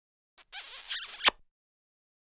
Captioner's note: smooching